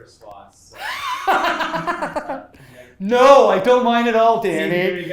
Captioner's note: laughs